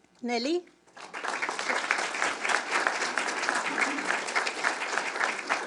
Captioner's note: audience clapping